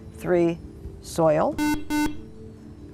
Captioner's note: buzzer